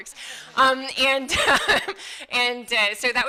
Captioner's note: laughing